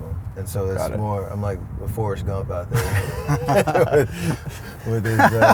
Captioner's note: laughs